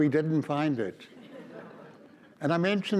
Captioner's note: audience laughs